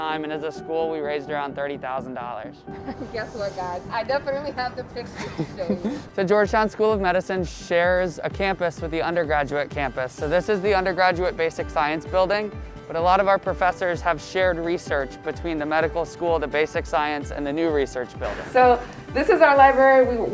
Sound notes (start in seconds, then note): 5.1 laughing